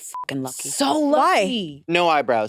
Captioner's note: beep